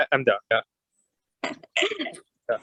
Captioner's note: chuckling